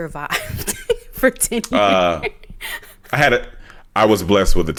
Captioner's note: chuckles